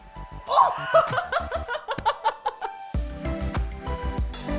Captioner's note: all laughing; upbeat music